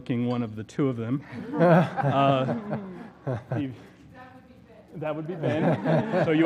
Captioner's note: laugh